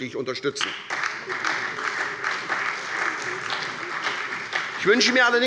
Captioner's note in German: Beifall bei der SPD und bei Abgeordneten der CDU